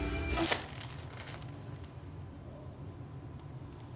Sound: chip bag pops

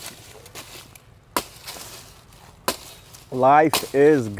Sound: hammering

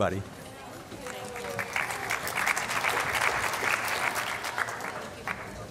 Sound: applause

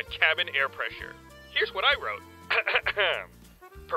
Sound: clears throat

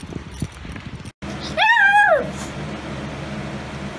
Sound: Ella barks and howls

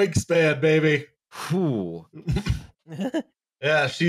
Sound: laughs delightfully

